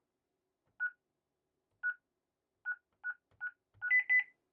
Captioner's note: beeping